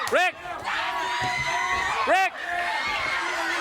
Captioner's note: crowd cheering